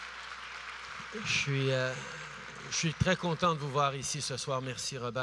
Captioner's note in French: Applaudissements